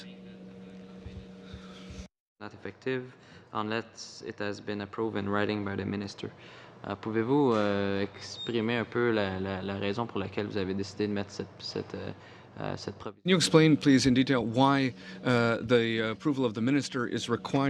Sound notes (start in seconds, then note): 13.8 speaking French